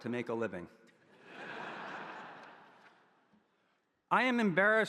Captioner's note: audience laughing